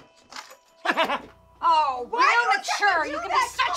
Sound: I Am sniggers

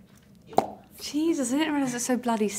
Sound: finger popping

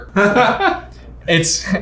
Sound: laughing

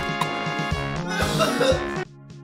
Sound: laughter

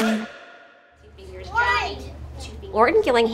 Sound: students and teacher conversing

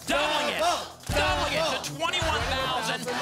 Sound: chanting double

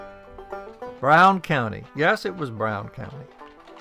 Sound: folksy guitar; hooves clopping

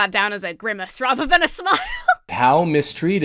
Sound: laughs

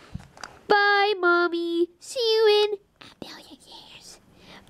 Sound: whispers

